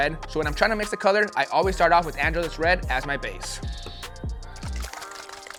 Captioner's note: applause